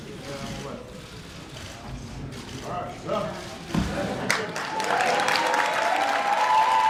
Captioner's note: applause